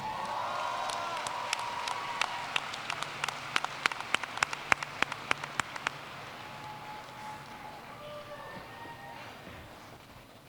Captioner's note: applause